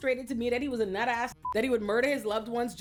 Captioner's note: beep